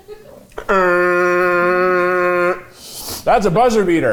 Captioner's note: imitating buzzer